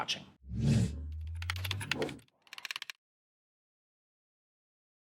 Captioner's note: keyboard clicking